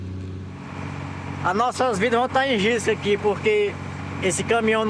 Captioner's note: Portuguese spoken audio